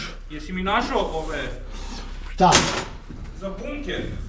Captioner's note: snorts